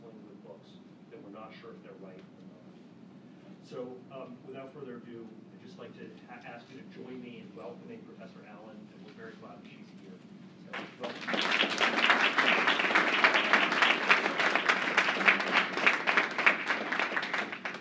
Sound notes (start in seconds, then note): 10.7 applause